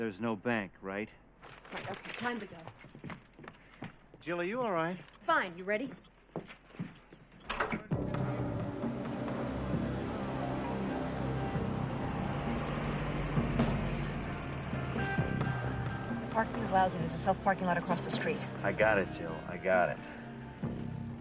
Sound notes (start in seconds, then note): 8.6 car engine revving; 8.6 dramatic music